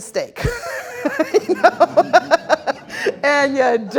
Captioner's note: all laughing